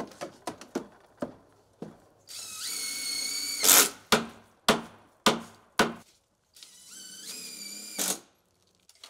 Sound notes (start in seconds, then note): 2.2 drill whirring; 5.2 hammer smacking; 6.6 drill whirring